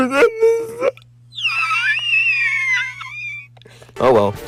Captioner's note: cries quietly